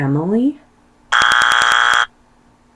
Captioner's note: wrong answer sound effect